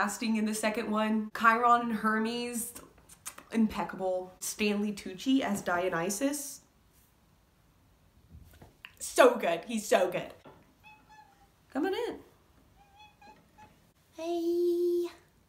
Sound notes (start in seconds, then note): 0.0 Melania voice; 10.8 meow; 13.0 baby voice